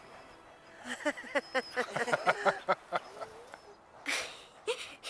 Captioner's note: all laughing